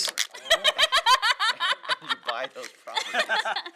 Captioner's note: laughter